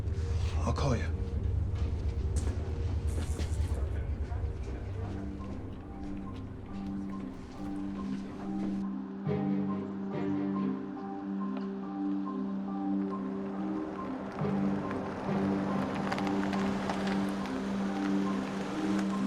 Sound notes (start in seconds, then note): 3.0 electric zapping